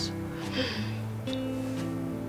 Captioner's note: gasps